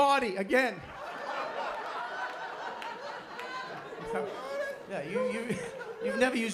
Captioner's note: laughter